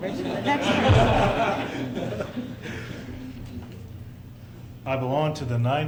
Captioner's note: laughter